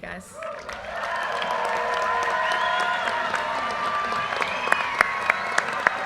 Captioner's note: graduates cheering and applauding